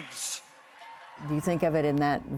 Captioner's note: cheering